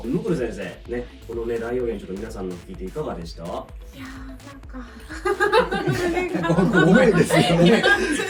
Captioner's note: laughs